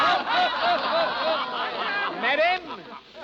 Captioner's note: laughter